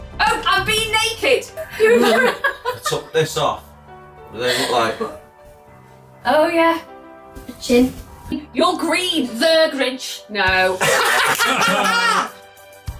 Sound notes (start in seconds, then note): 1.6 laughing; 10.8 laughing; 12.7 upbeat music